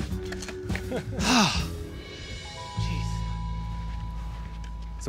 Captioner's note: laughing; sighs